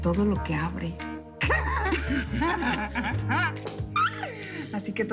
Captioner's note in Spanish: Risas